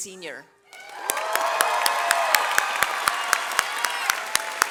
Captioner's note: audience cheers